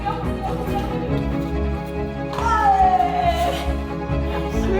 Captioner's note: shouting, laughing